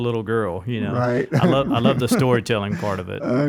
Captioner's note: laughs